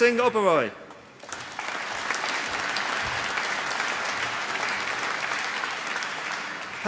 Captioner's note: applause